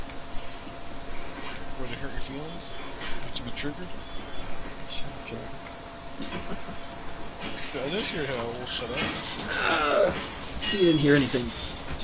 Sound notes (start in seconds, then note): 4.5 quietly; 6.2 chuckling